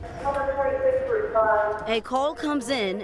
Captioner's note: loudspeaker